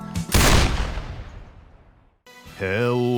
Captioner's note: gunshot